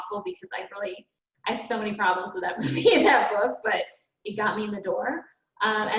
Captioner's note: chuckles